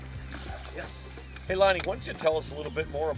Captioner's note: voiceover